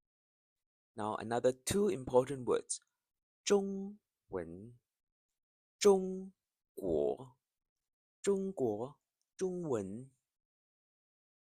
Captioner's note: Chinese language